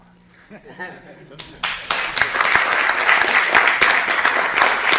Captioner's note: audience clapping